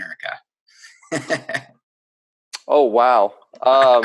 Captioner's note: laughs